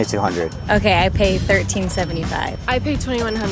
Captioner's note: cash register chiming